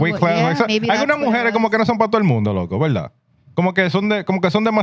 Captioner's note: speaking Foreign Language